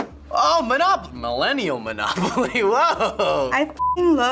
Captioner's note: chuckles